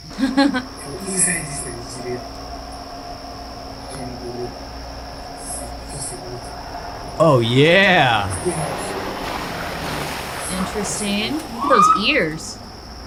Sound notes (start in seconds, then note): 0.0 laughing; 1.6 cameraperson speaking foreign language